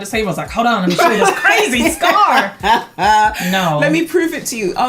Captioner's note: laughs